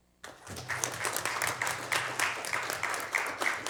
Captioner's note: applauding